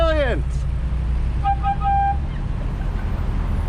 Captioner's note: air horn almost out of air